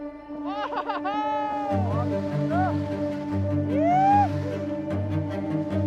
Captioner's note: laughter, whooping